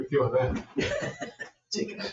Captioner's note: people chuckle